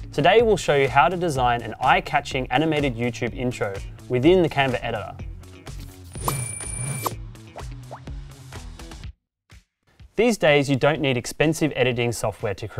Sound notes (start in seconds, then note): 6.1 bell dinging; 8.0 upbeat music